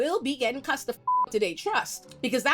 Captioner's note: beep